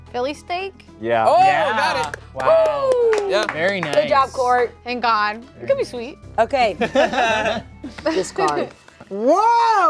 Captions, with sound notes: - Philly steak? - Yeah. - Oh, got it. - Wow. Very nice. - Woo! - Good job. Court. - Thank god. It could be sweet. - Okay. (players chuckle) Discard. Whoa! Okay.